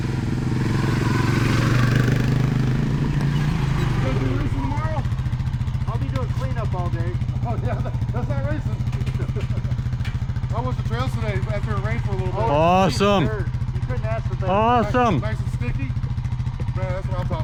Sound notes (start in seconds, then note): 4.1 bike engine roaring; 12.4 laughing